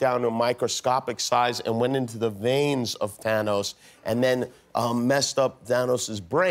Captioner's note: none